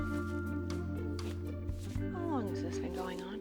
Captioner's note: quietly